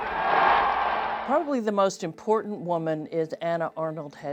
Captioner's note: crowd cheers